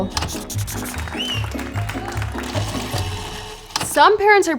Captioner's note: hands clapping